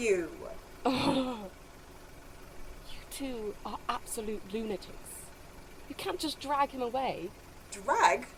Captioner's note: Lily groans